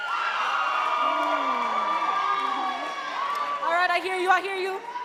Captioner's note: audience cheering and clapping